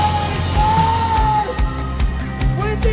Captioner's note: screaming